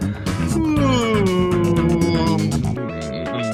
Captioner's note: Parsley yawns